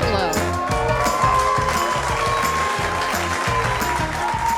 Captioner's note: applause